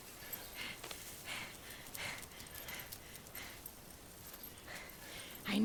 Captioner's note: rapid footfalls clicking; dog tags jingling